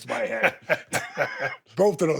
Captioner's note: Steve laughs